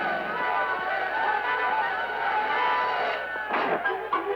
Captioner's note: crowd cheering